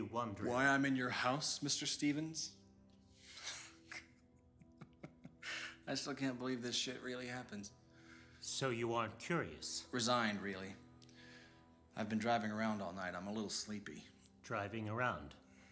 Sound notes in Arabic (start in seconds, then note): 3.4 ضحكة مكتومة